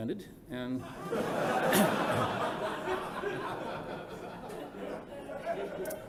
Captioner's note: laughter